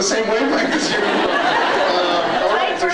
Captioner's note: laughs